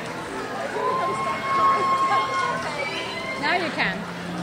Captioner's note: crowd cheers